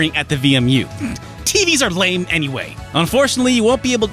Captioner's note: snickers